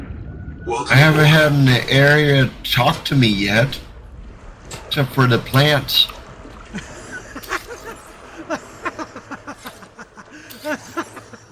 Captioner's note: animation laughter